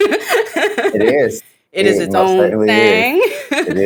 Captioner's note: laugh